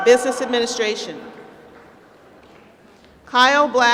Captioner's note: applause